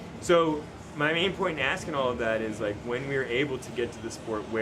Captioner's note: none